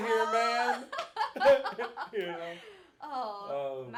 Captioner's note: both laughing